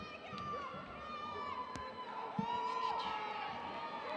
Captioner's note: audience cheering